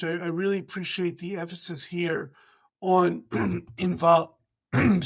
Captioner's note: coughs